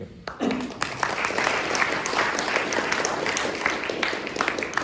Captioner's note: applause